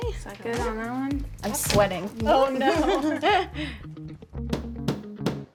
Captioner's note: laughter